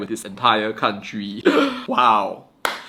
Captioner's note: coughs; claps